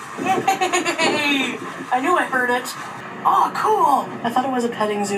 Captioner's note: laughs